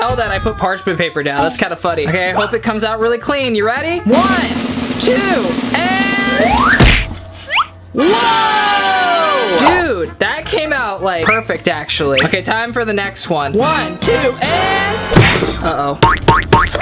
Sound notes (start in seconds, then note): 4.0 drum roll; 7.4 side whistle whistling; 8.5 triumphant music; 13.6 dramatic music